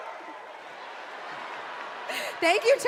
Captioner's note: cheers and applause